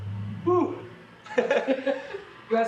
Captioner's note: sighs; laughing